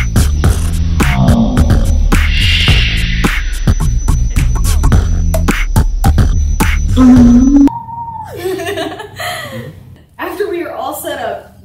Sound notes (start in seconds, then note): 0.6 distorted speech; 6.7 distorted speech; 8.3 laughter